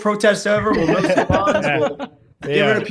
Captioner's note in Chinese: 笑声